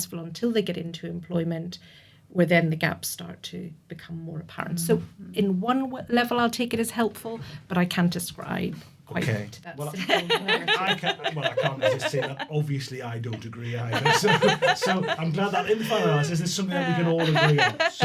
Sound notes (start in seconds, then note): 9.9 laughter